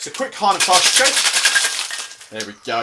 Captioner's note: cocktail shaker shaking